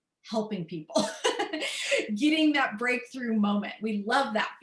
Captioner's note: laughter